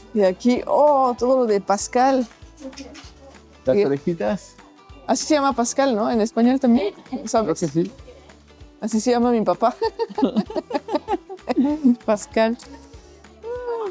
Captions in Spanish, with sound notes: Y aquí, oh. Todo lo de Pascal, las orejitas. Así se llama Pascal, ¿no? En español también, ¿sabes? Creo que sí. Así se llama mi papá. [risas] Pascal.